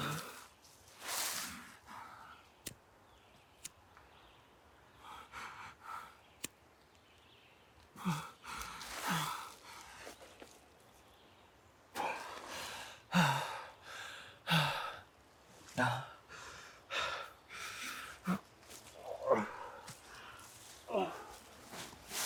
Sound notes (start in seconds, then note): 2.6 lighter clicking; 4.9 Arawn breathing uneasily; 12.0 Arawn breathing heavily; 18.9 Arawn groaning